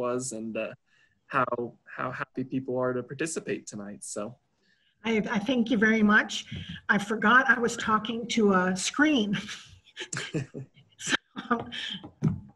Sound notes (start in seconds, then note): 9.9 both chuckle